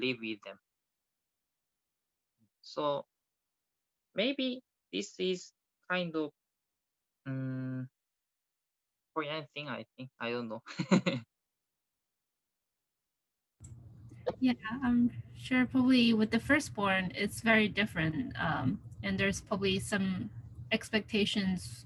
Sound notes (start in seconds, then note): 10.7 chuckles